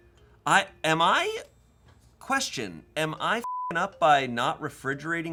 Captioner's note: beep